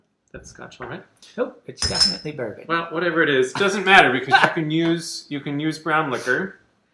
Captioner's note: chatter